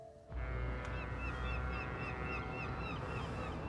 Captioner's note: boat horn honking